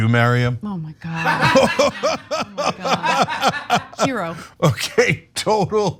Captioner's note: laugh